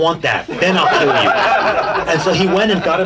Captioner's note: audience laughing